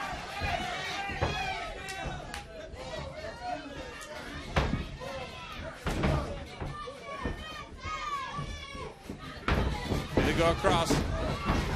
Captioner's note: crowd chatter